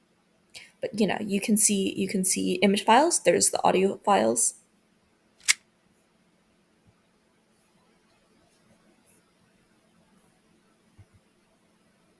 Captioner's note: click sound